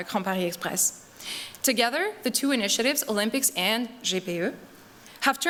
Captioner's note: non-english speech